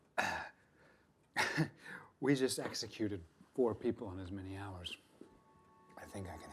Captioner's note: chuckling